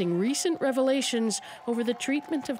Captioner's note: cheering